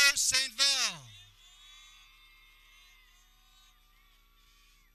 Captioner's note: people cheering